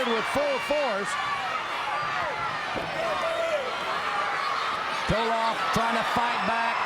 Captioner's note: crowd cheering